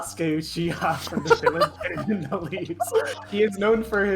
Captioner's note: laughter